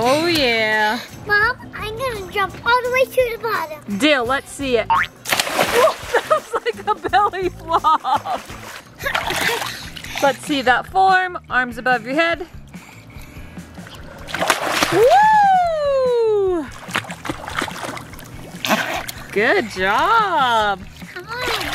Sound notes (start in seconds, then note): 5.0 spring and splash; 13.8 splash